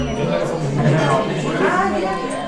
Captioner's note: background chatter